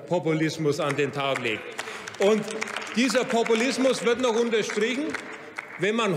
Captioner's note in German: Beifall bei Abgeordneten der CDU/CSU und der SPD